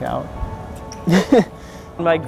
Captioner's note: man chuckles